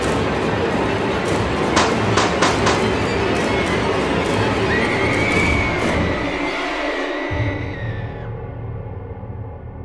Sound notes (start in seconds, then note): 2.1 gunshots